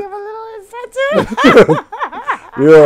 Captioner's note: laughing